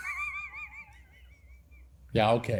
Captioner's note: laughter